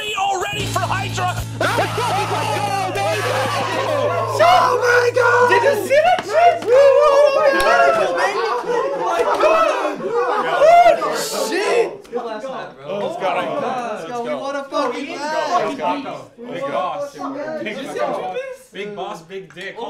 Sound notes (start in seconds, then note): 1.0 yelling